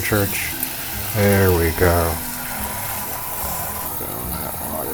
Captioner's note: water splashing